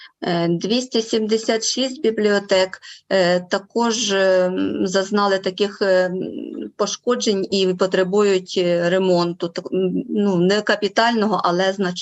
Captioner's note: foreign Language Spoken